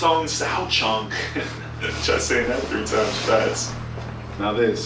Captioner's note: laughing